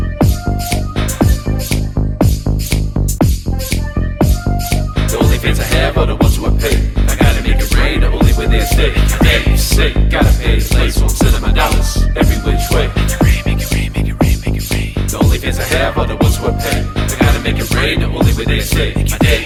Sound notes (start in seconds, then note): 5.1 rapping; 13.1 whispering; 15.2 rapping